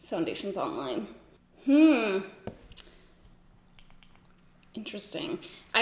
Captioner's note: humming